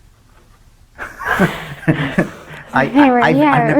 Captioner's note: laughs